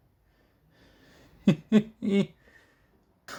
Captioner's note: giggle